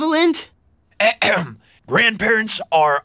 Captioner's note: throat clearing